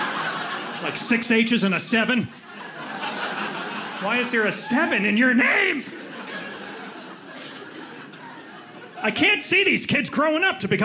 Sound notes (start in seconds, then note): 2.6 audience laughing